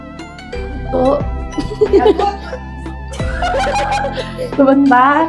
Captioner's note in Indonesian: tertawa